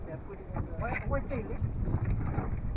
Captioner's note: wind blowing